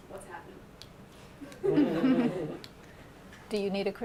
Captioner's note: laughter